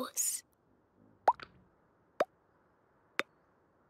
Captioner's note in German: Leise Ploppgeräusche